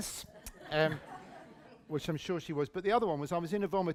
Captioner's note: laughter